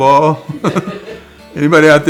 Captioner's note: distant giggling